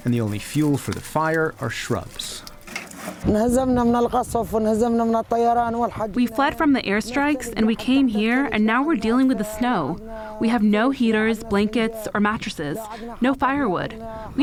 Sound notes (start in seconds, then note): 4.4 through translator